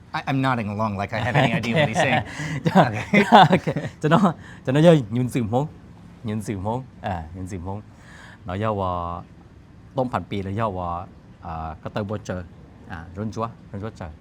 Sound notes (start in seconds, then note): 4.4 laughs; 7.2 speaking Hmong